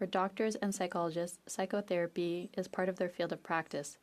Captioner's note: speaking French